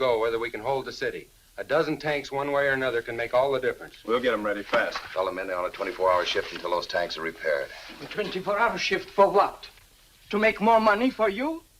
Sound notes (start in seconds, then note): none